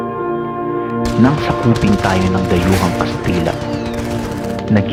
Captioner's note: guns firing on background